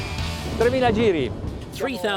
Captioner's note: speaking foreign language